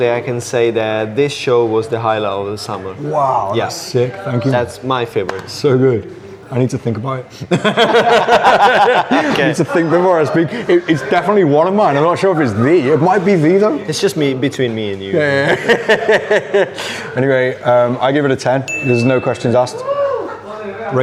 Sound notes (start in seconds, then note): 7.5 laughs; 15.1 laughs